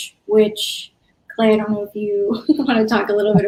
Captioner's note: laughs